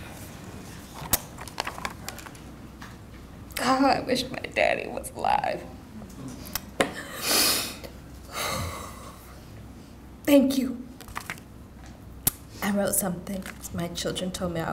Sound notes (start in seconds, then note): 7.5 deeply inhales and sighs